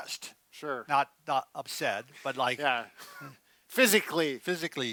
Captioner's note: laughs